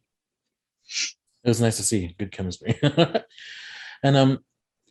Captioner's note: laughs